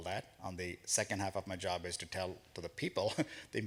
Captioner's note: chuckles